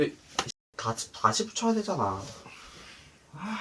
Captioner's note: sigh